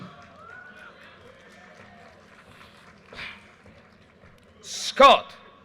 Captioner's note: audience cheers and applause